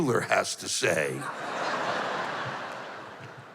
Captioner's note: laughter